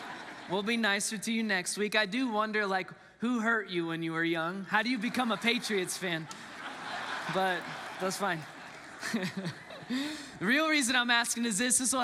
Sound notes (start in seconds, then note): 4.8 congregants laughs; 8.4 laughs